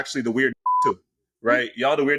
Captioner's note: beep